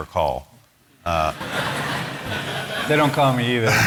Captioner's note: laughter